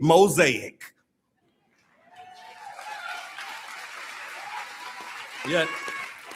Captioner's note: audience Applauding